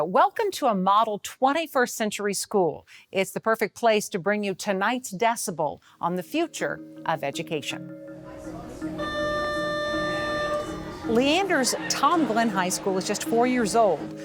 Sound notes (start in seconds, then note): 8.8 beeping